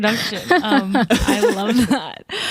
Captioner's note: whembley chuckles